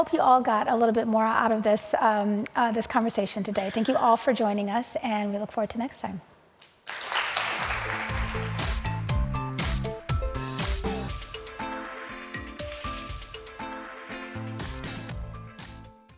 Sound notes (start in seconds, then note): 9.5 applause